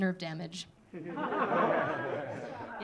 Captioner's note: audience laughing